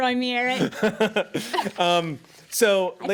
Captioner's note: Eric laughs